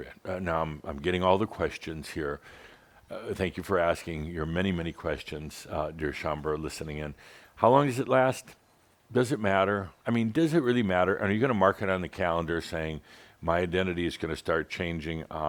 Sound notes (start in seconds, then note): none